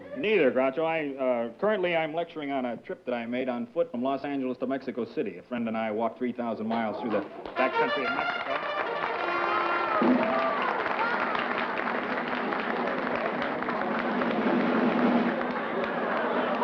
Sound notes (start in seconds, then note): 7.5 fanfare; 9.2 applause; 12.2 drum roll